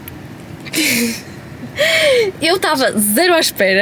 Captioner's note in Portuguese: risadas; suspirando